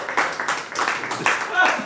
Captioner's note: audience laughs; audience claps